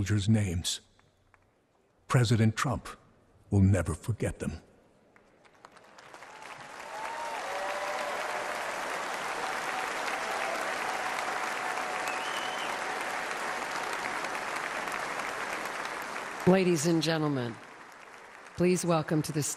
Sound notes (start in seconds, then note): 8.3 applause